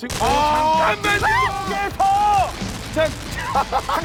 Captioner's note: shrieks